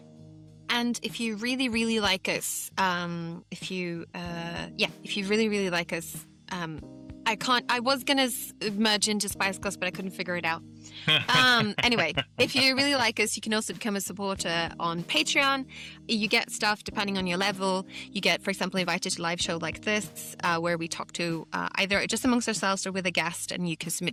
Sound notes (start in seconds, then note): 11.0 laughs